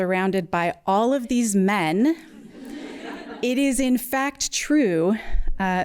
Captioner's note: laughter